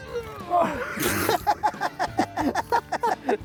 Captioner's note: laughing